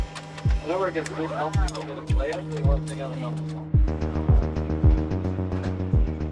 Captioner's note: 80s music; background chatter